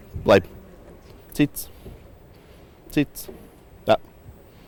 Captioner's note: chirrups